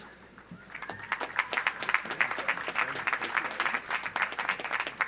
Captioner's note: audience applauds